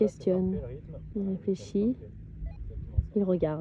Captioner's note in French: bip